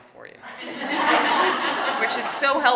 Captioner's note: audience laughing